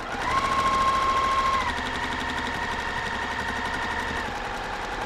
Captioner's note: sewing machine whirring